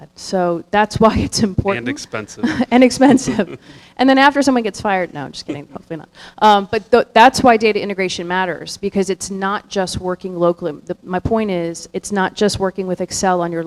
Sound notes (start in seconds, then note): 1.7 chuckling